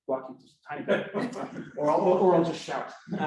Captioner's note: laughter